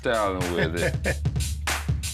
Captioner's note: hip-hop music; chuckles